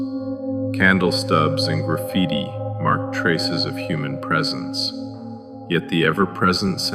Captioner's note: echoing